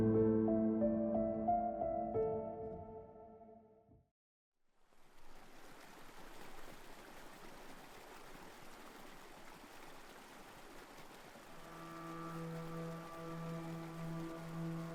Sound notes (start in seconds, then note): 5.3 stream bubbling quietly; 11.5 soft eerie music